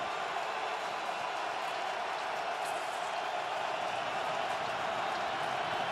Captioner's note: crowd cheering